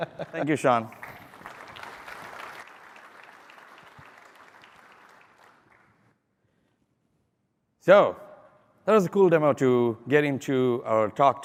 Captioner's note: applause